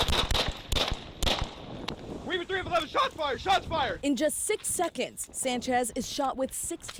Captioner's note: gunfire